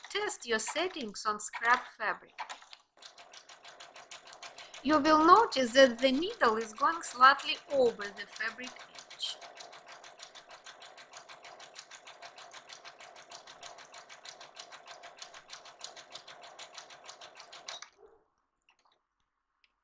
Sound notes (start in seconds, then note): 4.1 sewing machine humming